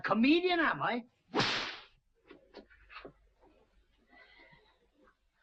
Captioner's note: belt slapping